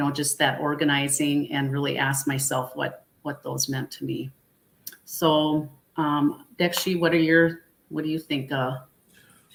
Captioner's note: speaking Dakota